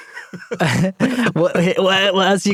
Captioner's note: laughter